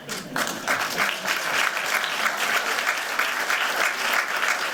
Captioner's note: applause